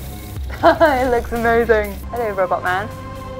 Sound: laughing

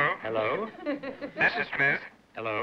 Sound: on phone

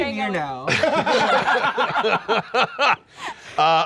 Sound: laughing

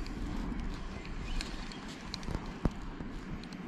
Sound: reel turning

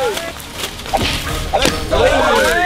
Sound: footsteps; leaves moving; cheering

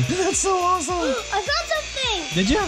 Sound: gasps

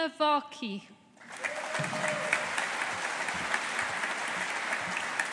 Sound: audience applauding

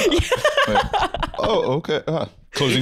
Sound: laughing

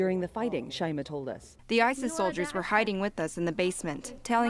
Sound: through translator

